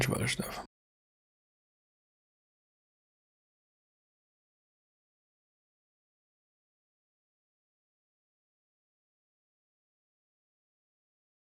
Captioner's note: blank Audio